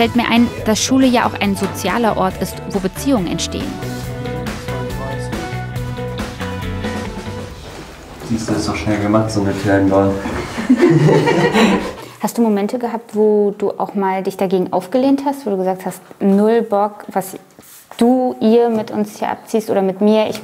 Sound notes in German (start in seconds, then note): 5.7 Musik verklingt; 10.2 Gelächter